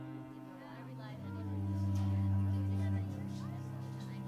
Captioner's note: dramatic string music; people chattering